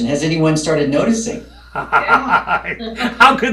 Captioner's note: laughing